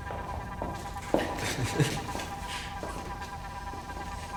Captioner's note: David laughs